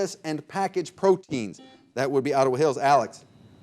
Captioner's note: buzzer beeping